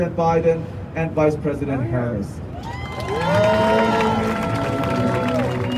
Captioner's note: crowd cheering